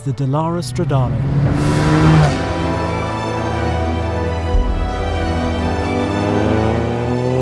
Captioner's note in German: Epische Musik; Motorgeräusche